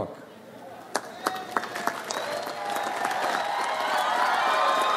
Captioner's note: audience applauds